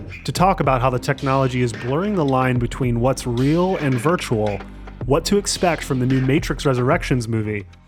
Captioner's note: none